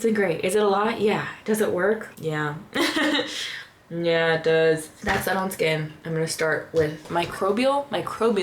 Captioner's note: laughter